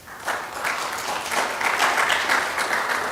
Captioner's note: applauding